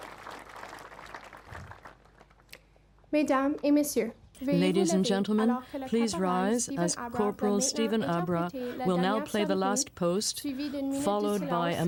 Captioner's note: applause